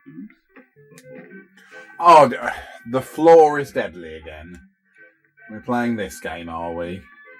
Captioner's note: grunts